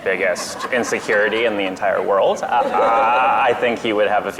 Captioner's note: audience laughs